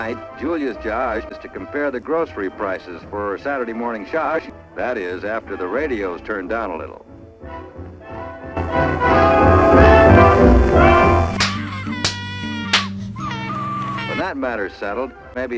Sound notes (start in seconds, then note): 8.6 radio gets turned down a litt- NOPE THAT'S DEFINITELY LOUDER; 11.3 spanking & crying noises